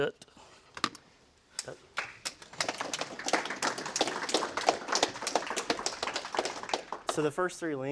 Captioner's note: applause